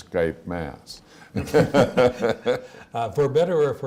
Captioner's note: all laugh